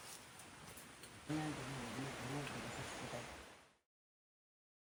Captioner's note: rain pouring